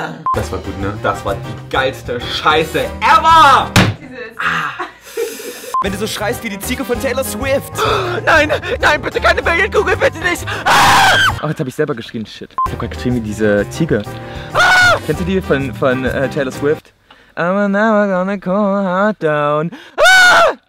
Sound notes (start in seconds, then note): 4.2 in pain; 17.2 sings as a Goat Remix